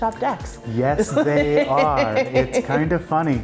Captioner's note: laughing